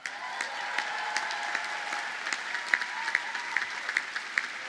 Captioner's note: audience cheers and applauds